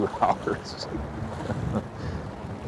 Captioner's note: laughing